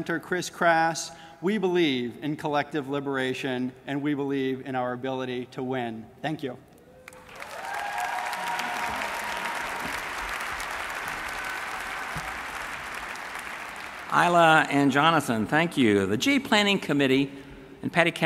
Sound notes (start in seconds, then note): 14.2 applause